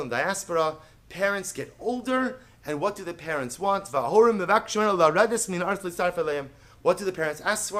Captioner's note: Hebrew